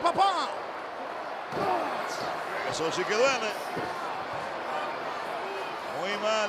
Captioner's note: applause